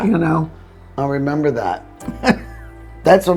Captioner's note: laughing